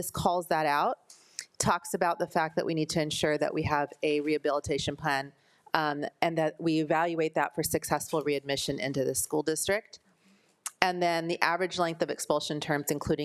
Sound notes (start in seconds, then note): none